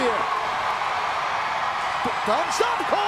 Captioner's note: crowd cheering